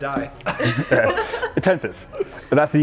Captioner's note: weightlifters laughing